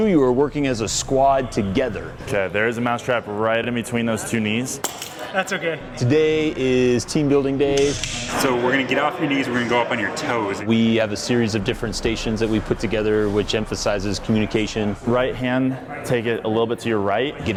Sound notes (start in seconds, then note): 5.0 mousetrap snaps